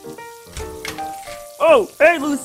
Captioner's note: door opens